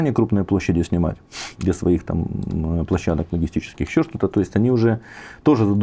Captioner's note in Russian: фыркает